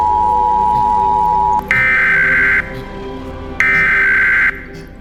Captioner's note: beeping; alarm beeping